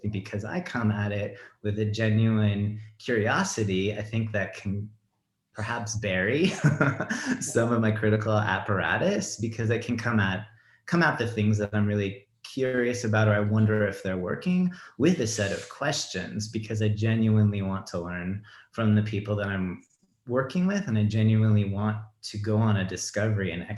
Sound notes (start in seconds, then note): 6.5 laughs